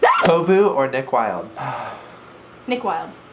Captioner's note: sighs